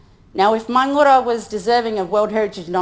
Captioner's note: speaks in foreign language